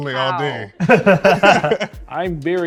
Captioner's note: both laughing